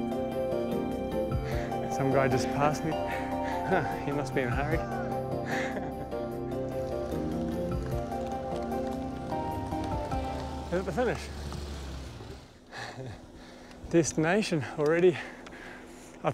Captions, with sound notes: - So I'm just gonna pass you. - [chuckles] You must be in a hurry. Here's the finish! Destination, already!